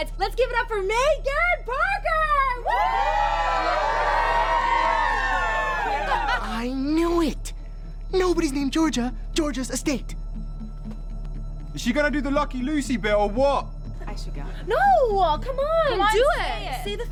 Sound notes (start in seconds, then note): 2.6 crowd cheering; 6.0 Nicole laughing; 10.4 slow suspenseful music